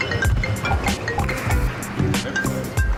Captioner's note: phone ringing